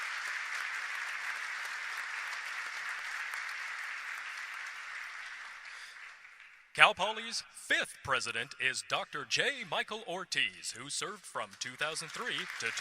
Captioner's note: applause